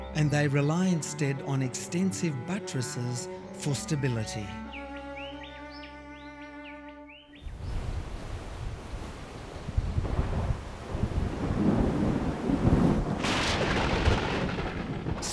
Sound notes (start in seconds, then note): 7.4 wind howling; 11.5 thunder rumbling